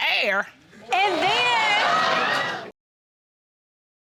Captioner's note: audience laughs